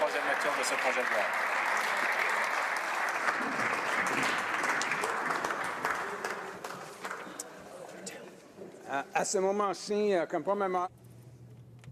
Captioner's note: applause